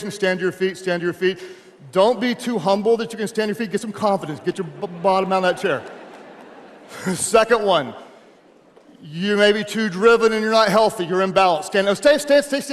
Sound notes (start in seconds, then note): 6.1 audience laughing